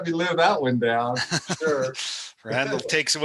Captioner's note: laughing